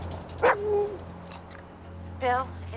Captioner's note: howls; Buck barks